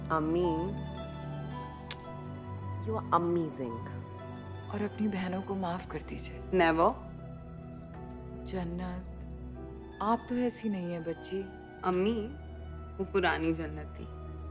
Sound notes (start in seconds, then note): 1.8 Kisses